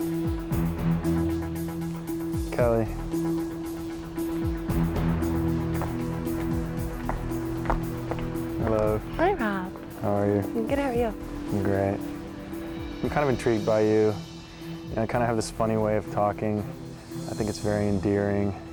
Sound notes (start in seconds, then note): 3.0 gentle suspenseful music; 4.3 footsteps clacking